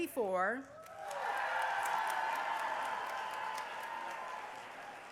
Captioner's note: cheering